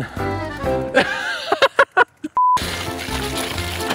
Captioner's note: laughs